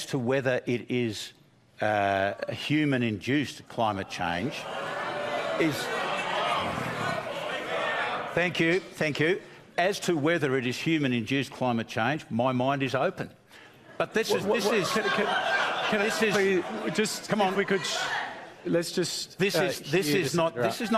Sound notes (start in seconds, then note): 4.9 jeering; 14.2 incredulous laughter